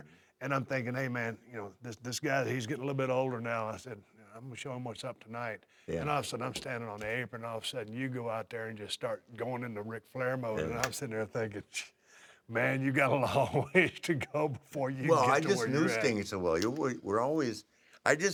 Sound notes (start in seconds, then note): 15.1 laugh